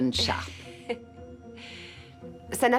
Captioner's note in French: rires